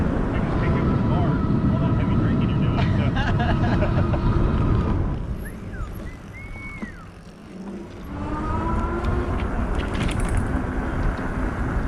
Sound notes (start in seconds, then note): 2.6 both laugh; 5.3 whistling; 8.4 electric motor whirs